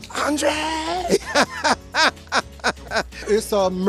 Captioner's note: laughs